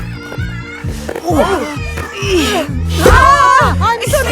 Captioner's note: grunting